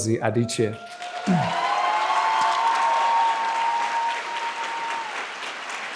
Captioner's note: participants applauding